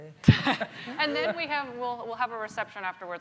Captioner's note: laughing